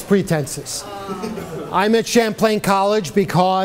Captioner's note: woman sighs in mock surprise